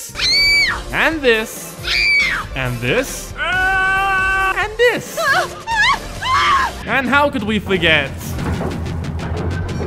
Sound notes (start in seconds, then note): 1.8 girl Scream; 3.2 man Scream; 5.1 woman scream